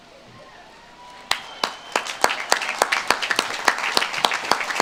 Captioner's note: audience claps